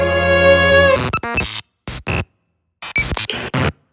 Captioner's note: jarring electronic noises